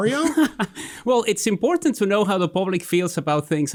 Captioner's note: laughing